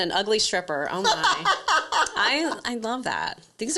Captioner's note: laughs